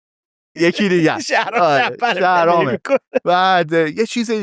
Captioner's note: laughs